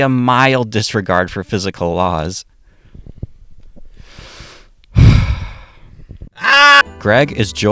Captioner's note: deep breath